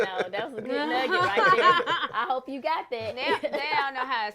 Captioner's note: laughter